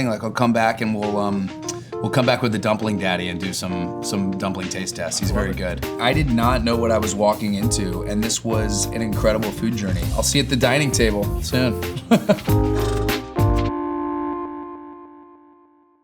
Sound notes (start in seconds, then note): 11.9 chuckles; 13.7 bright ambient music